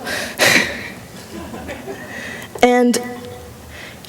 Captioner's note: laughter